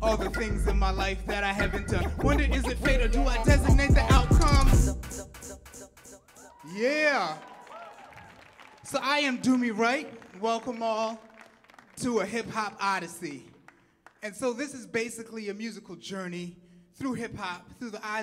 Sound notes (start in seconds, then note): 4.2 music fades; 6.7 audience clapping and cheering